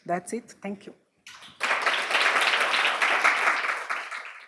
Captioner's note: applause